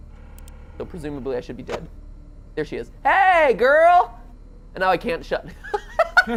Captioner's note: laughs